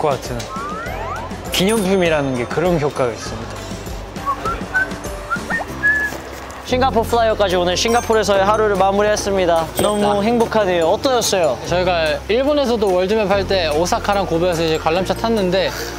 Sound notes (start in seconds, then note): 4.2 whistling out of happiness